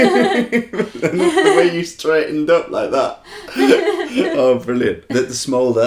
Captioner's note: laughter